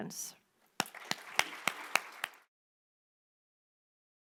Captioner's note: applause